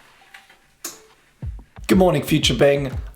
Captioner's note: light clicking